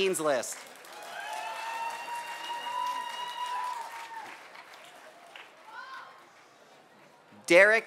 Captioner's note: applause